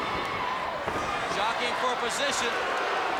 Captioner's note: crowd cheering